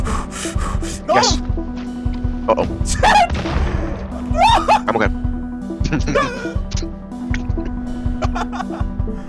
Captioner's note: heavy breathing; yelps of chaos